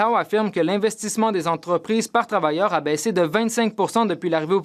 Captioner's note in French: voix de l'interprète